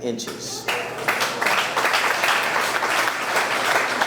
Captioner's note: audience clapping